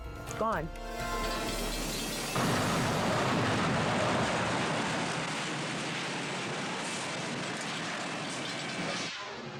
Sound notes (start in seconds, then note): 0.8 bell rings; 1.2 crash thundering